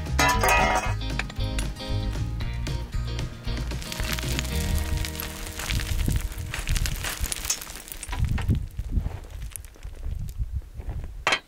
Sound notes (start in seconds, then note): 0.1 rake thuds; 2.6 loose gravel and rocks clattering